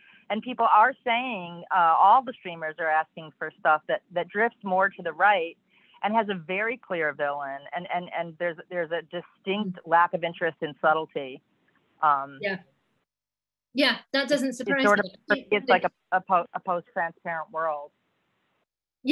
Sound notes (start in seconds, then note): none